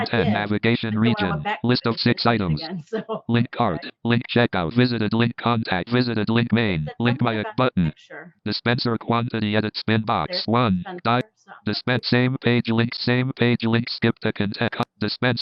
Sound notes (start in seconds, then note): 3.8 automated voice over